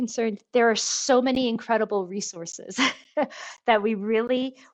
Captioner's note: laughs